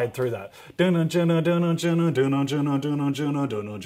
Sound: imitates drums

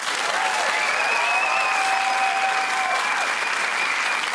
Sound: cheering

